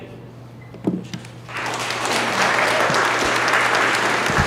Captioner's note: audience applause